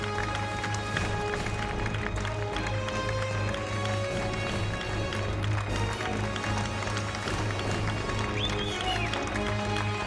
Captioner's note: applause